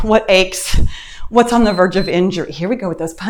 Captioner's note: timer beeps